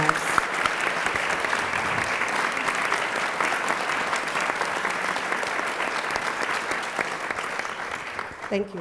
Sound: applause

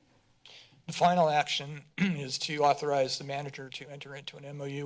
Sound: clears throat

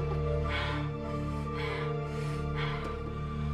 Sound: grunts; whimpers, Sobs

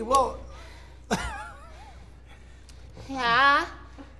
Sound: laughter

